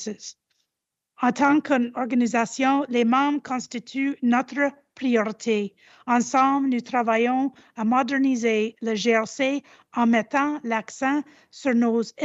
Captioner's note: repeats in French